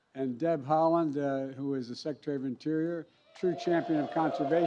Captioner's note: applause